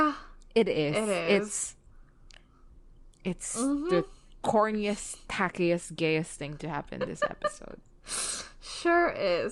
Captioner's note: laughs